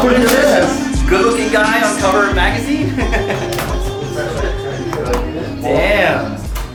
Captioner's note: laughs